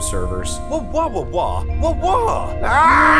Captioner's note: Paul speaking in foreign language; Rudy yelling